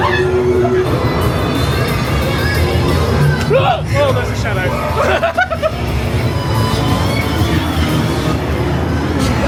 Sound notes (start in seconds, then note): 1.3 metal music; 3.6 screaming; 4.8 laughs; 6.8 metal music